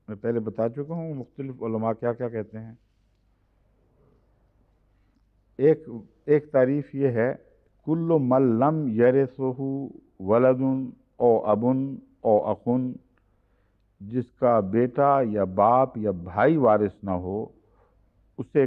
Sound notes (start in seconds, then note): 12.3 Arabic